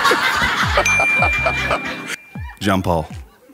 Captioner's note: laughing; bells dings